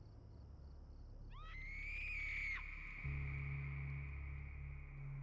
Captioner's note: screaming